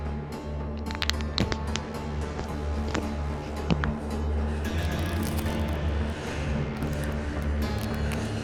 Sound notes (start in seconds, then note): 0.7 eye balls crackling; 4.5 eerie music